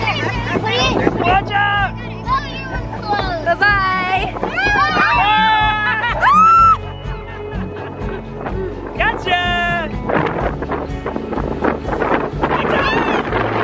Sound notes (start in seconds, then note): 5.9 yelling